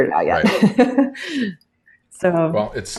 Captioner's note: laughs